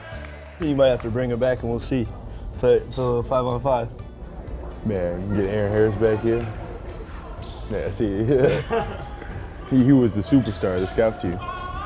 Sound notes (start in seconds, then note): 6.4 laughs